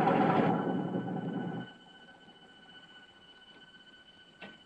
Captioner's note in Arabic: اغلاق المحرك